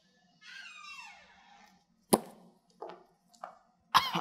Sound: door squeaking

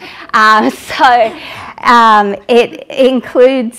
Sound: laughter

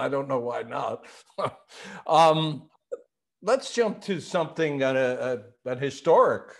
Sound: chuckles

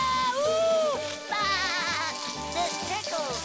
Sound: laughing

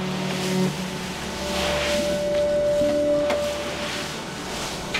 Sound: leaves rustling

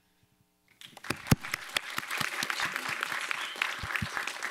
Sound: applause

